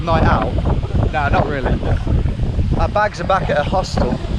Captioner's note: laughs